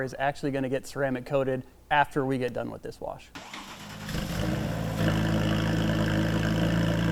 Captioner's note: engine revving